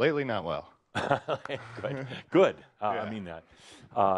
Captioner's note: chuckling